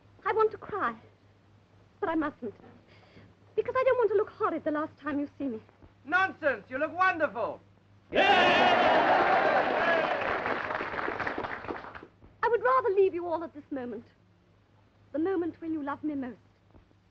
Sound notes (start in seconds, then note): 8.1 cheering and applause